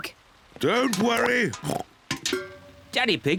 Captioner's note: oinks